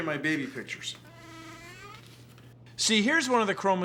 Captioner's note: creaking